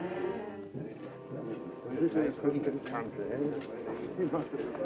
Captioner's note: men chattering